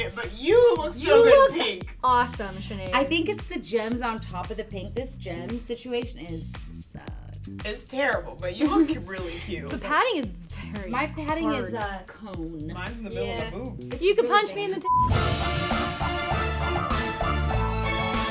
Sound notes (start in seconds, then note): 14.8 beep; 14.9 dramatic music